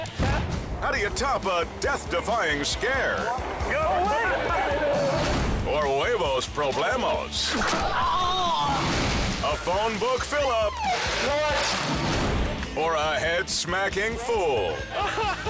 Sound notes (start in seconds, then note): 4.1 friends chattering; 9.3 transition whooshes; 14.7 group laughing